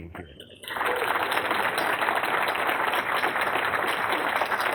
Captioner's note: applause